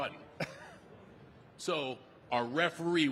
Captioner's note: The Undertaker laughing